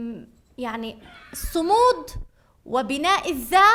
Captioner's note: speaking arabic